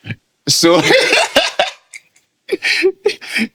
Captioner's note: laughing